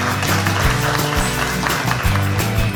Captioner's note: applause